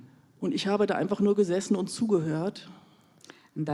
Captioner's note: in German